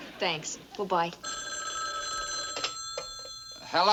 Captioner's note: phone rings